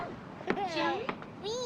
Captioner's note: molly giggling